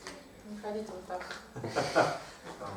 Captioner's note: hahaha